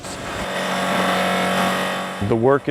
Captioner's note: machine buzzing